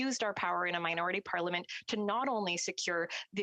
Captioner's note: speaking French